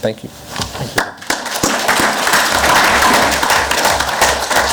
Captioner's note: clapping